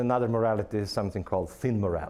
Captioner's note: none